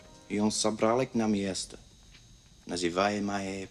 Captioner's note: speaking Russian